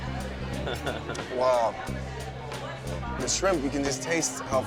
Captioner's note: laughs